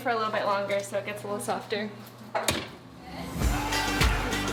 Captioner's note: oven door thumping; chattering; upbeat music